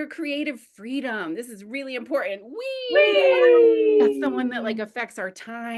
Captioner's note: multiple voices say WHEEEE